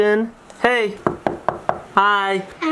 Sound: door knocks

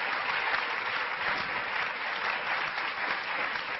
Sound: clapping

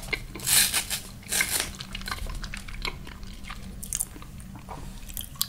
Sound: tearing sounds

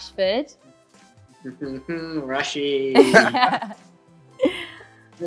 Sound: laughs

